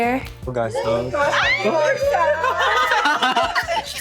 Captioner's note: all cheering